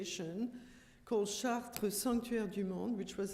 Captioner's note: french